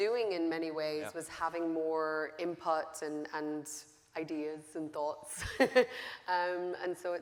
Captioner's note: laughing